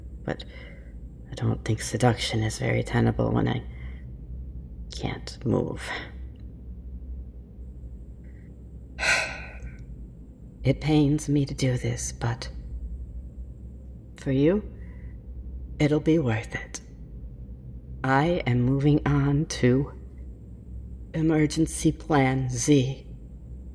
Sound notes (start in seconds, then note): 9.0 sigh